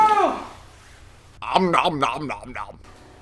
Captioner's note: omnomnomnomnom